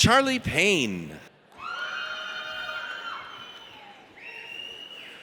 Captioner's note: audience cheers